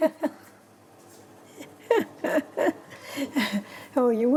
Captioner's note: laughing